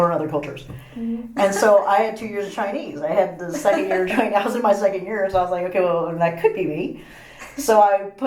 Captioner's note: laughs